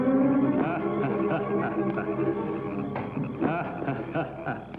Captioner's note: alien laughing